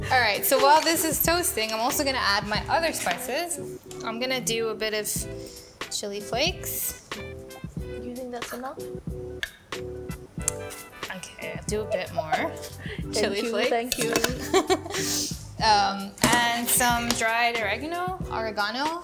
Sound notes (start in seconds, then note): 14.1 giggles; 14.2 chuckles